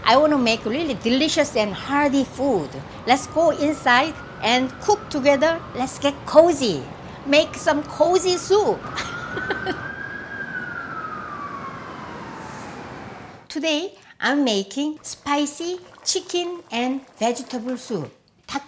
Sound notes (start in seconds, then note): 8.9 laughs; 10.9 sirens wailing